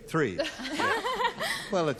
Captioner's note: laughter